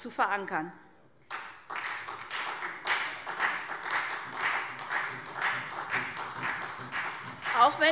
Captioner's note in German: Beifall SPD